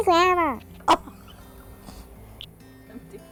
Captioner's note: laughter